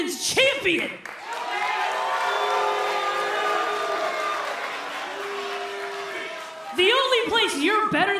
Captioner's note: crowd cheering